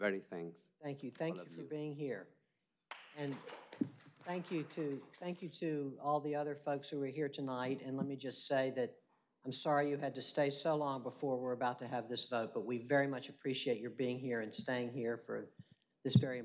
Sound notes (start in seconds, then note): 5.5 applause